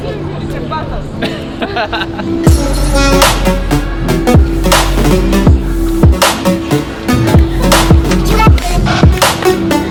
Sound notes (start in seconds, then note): 0.1 woman speaking in background; 1.2 laughing; 4.0 upbeat music